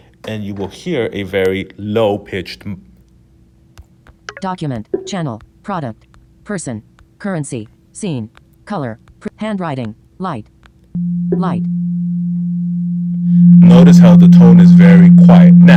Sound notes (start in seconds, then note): 10.9 low tone